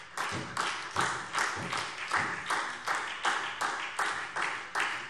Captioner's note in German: Beifall SPD